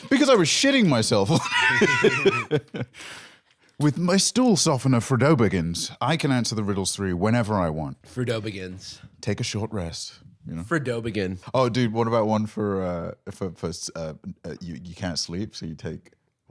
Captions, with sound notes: "Because I was shitting myself!" (both laughing) "With my stool softener, FroDObaggins, I can answer the riddles three whenever I want." - FroDObaggins. - "Take a short rest." You know? - FroDObegin'. - Oh, dude, one for, uh— You can't sleep, so you take...